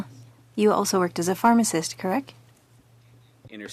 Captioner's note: speaking French